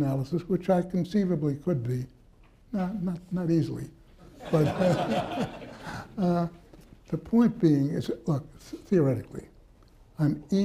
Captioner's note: laughter